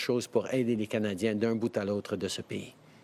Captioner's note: speaking French